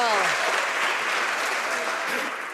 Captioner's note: some Applause